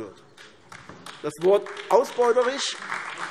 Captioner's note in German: Beifall AfD